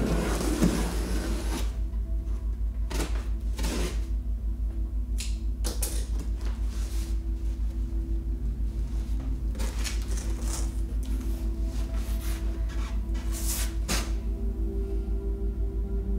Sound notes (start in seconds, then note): none